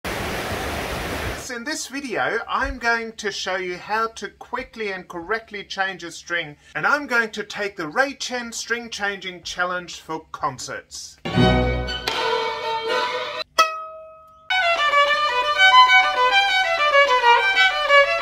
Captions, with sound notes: (waves burbling) - In this video I'm going to show you how to quickly and correctly change a string. And I'm going to take the Ray Chen string changing challenge for concerts. (classical music) (string snaps) (discordant music) (string thrums) (classical violin music)